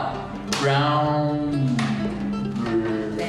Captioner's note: speaking Spanish